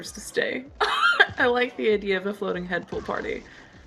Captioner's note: laughs